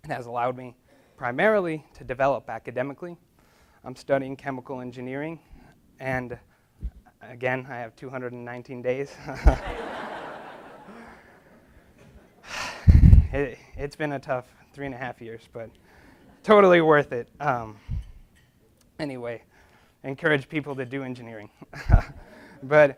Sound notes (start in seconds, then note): 9.2 laughs; 9.3 audience laughs